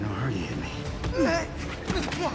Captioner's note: groans